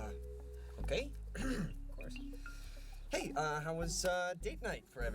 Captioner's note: clears throat